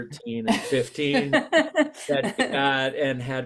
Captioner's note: chuckles